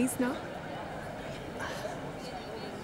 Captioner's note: Exhales